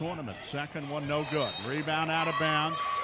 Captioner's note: referee whistling